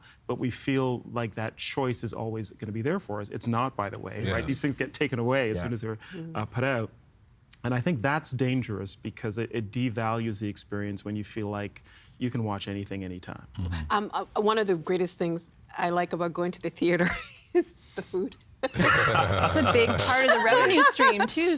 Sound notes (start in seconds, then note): 18.7 all laughing